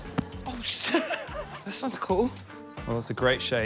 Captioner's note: laughter; laughs